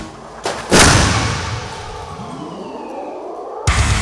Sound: car crashes; punk metal music

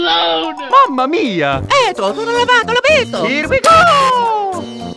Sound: italian gibberish

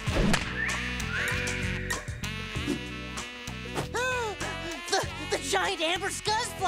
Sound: wolf whistle

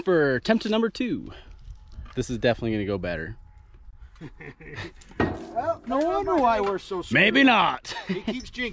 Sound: laughs

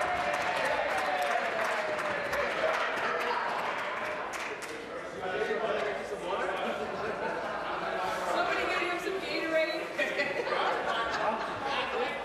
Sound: applause

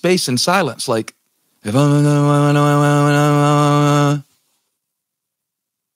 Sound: Pastor Steven humming

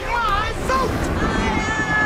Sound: epic explosion!!1

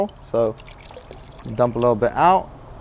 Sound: water pours out

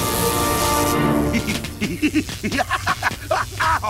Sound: laughs and groans; Bender laughs

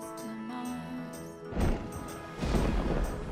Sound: thundering

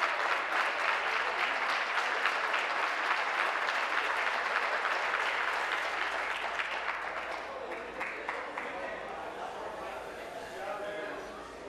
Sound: applause

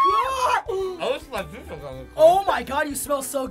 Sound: mouth full

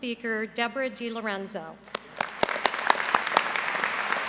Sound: applause

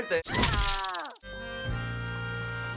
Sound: person screams

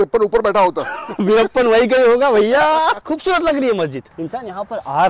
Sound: laughing

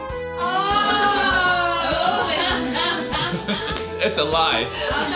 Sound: laughter

